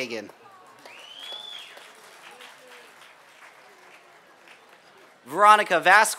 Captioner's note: applause